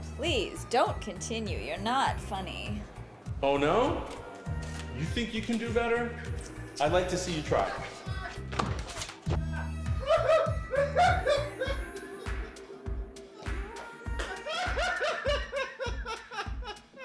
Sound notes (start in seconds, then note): 8.1 man laughing